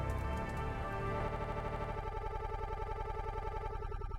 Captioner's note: audio stutters